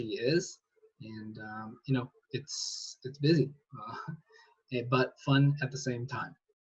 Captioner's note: chuckles